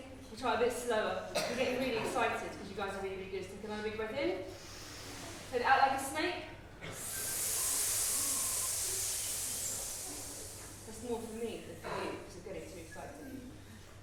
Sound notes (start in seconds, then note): 6.9 all breathe in